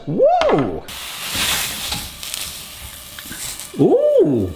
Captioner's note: watermelon sizzling